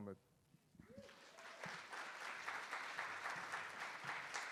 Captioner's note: attendees applauding